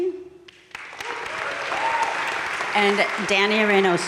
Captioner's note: audience cheering and applauding